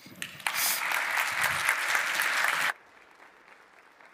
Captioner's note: applause